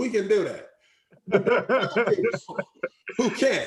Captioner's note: laughing